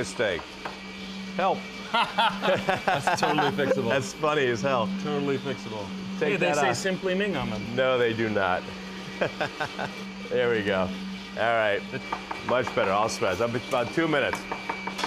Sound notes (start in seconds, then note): 1.8 they laugh; 9.2 laughs